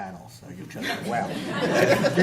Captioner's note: laughter